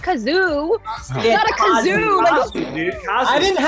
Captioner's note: blowing